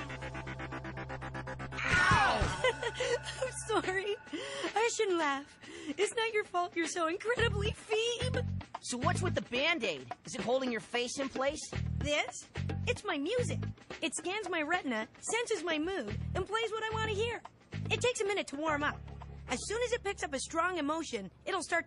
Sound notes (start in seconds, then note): 2.1 laughs